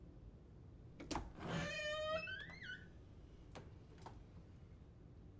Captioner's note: door clicks and creaks